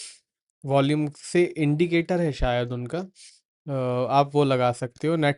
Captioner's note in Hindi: नाक से की जाने वाली आवाज़